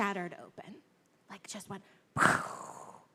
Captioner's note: mimics explosion